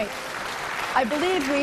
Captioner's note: applause